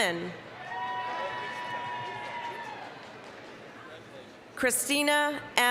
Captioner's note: applause, cheering